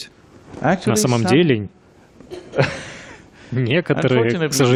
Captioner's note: Смеется